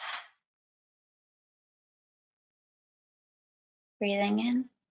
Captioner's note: exhales sharply